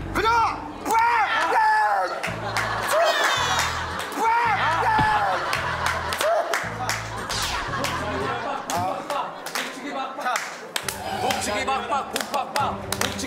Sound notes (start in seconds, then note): 2.9 crying